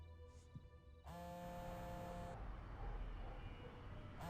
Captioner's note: phone vibrating